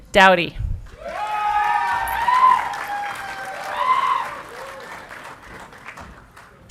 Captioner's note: audience clapping and cheering